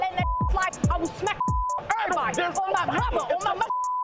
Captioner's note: beep; beep